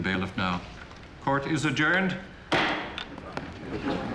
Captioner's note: gavel bangs